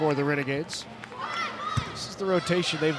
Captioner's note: ball thumping